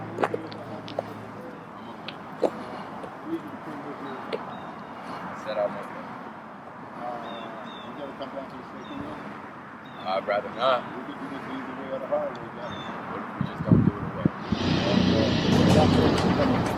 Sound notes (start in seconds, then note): 3.1 chattering; 14.5 drama music